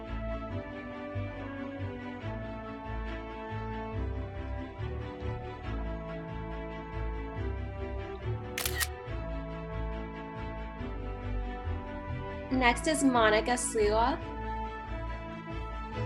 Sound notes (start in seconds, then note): 8.5 camera shutter sound